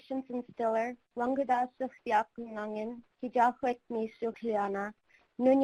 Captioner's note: speaking in foreign language